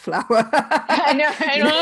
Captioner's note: laughing